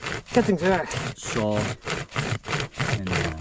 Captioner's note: tree crunching